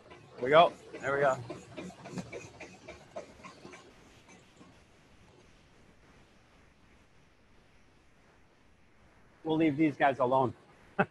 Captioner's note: laughter